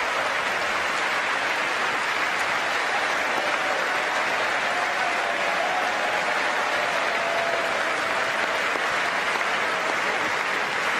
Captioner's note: applause